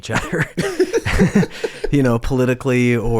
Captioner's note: both laughing